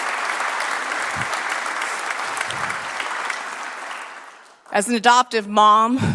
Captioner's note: applause